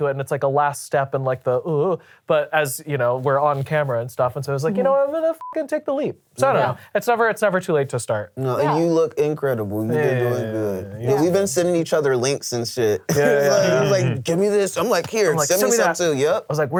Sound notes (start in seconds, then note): 5.4 beep